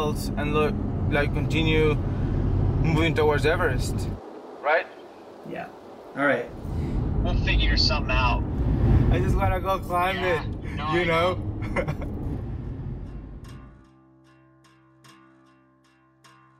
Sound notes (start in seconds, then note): 11.6 laughs